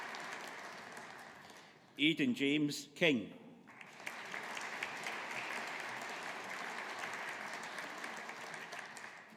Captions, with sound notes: Aidan-James King. (AUDIENCE APPLAUDING)